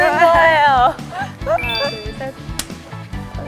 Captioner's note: clap